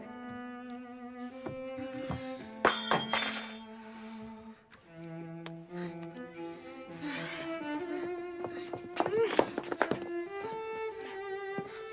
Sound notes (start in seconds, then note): 2.7 spoon Clatters